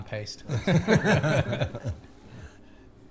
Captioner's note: laugher